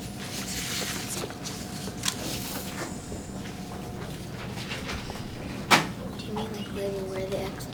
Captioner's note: pages turning